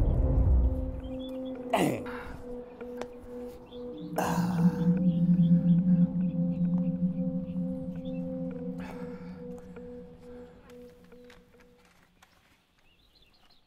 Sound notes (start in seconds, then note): 1.9 groans; 3.2 ominous music plays